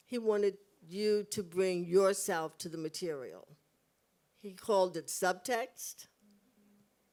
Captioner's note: none